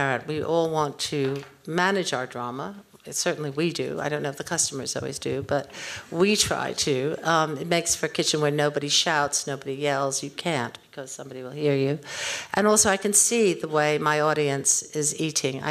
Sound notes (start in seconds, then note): none